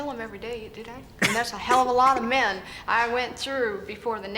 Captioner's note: laughs